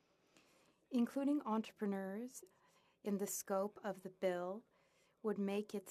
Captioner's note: speaking French